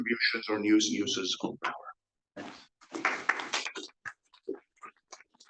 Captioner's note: audience applauds